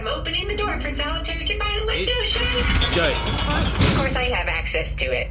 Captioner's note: door rolls back with a clank